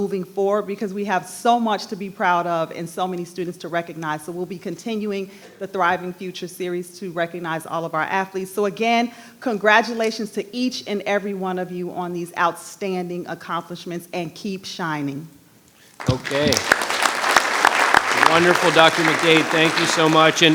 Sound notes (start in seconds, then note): 16.0 audience applauding